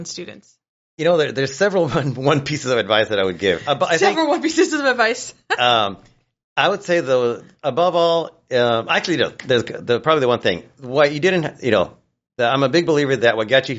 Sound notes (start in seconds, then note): 1.8 chuckles; 5.4 laughs